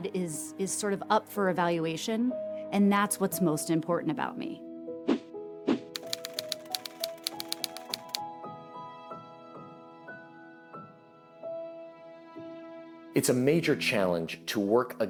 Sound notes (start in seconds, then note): 5.4 light music; 5.9 typewriter clacking